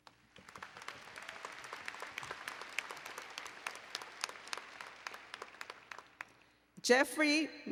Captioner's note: applause and Cheering